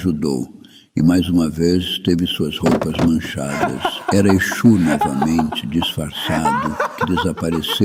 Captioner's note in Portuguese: risadas